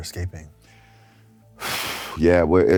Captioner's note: exhales